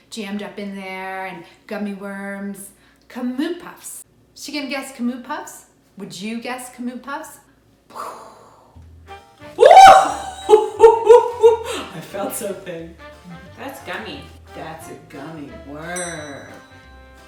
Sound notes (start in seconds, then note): 7.9 mimics explosion; 9.6 screams; 9.6 laughs